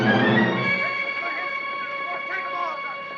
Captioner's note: people clamoring